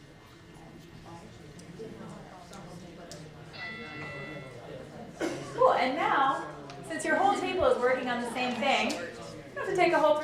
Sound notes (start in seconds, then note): 3.5 timer going off